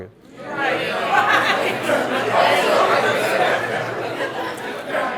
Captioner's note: audience murmurs and laughs